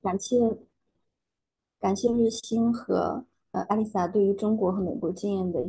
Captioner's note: speaking in foreign language